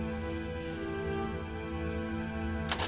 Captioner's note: crunching